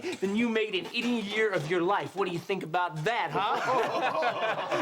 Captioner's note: all laugh